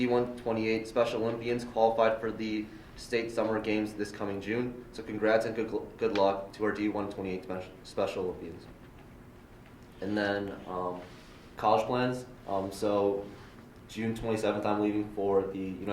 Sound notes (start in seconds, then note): none